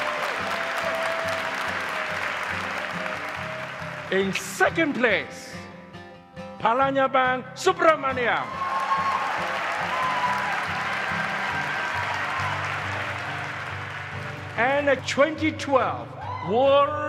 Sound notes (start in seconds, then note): 11.0 applause